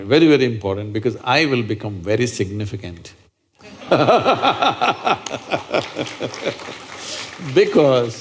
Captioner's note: laughter/Applause